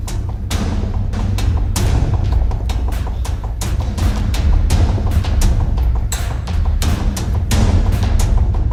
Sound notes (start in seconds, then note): 3.2 whispered